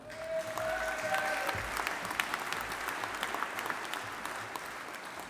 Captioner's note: audience applauding